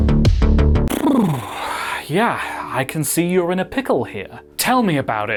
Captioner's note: lip Bubble Sigh